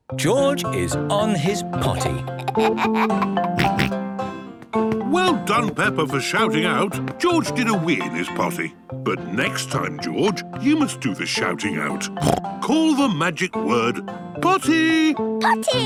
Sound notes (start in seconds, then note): 2.3 giggles, snorts; 12.2 snorts